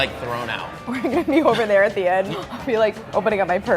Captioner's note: laughs